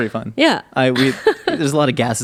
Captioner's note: laughing